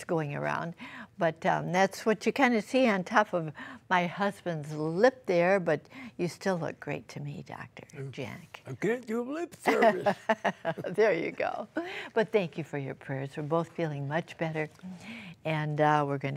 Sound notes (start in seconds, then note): 9.6 laughter